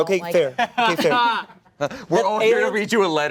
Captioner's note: laughter